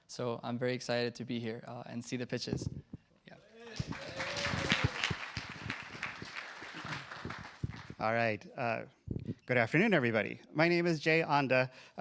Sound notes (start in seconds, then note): 3.6 cheers, applause